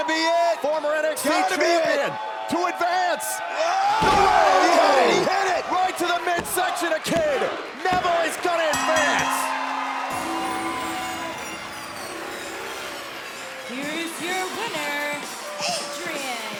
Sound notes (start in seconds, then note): 9.3 crowd cheering; 11.2 bell ringing